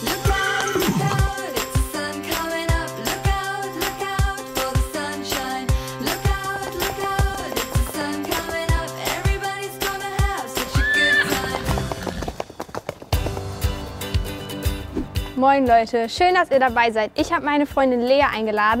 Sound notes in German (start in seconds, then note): 10.1 Pferdewiehern, Hufklappern; 13.2 Beschwingte Musik